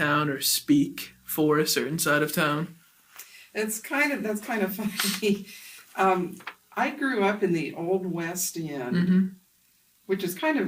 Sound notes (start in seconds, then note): 4.8 laughs to self